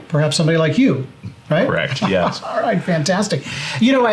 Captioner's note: chuckles